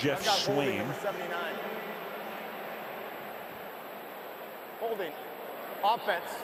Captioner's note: pa announcement